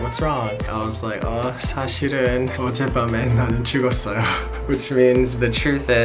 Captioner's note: speaking foreign language